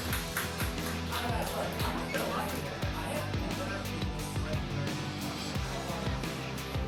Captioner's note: downbeat music continues; cast murmuring